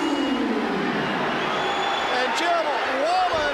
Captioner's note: crowd chatter